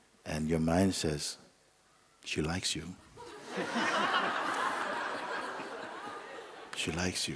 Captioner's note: laughter